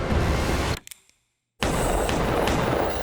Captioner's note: gun cocking; gun shots